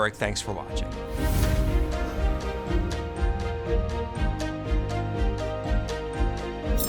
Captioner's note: inspirational music; logo whooshes